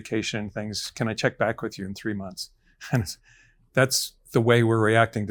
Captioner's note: chuckles